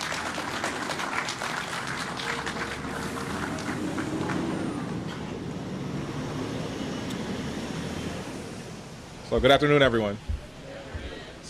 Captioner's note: applause